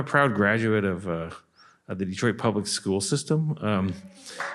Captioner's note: applause